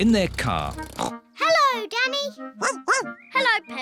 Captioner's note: snorts; barks